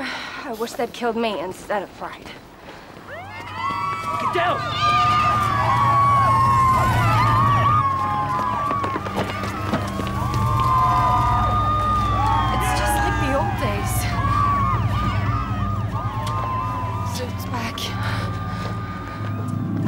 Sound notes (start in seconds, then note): 3.5 sirens